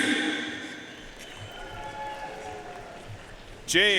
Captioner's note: audience cheering and applauding